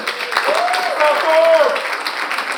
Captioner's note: audience applauding; audience member cheers